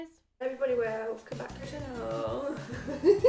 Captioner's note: slurred; laughter